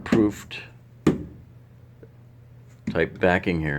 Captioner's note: tapping